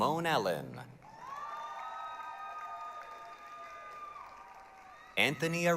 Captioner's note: applause, cheering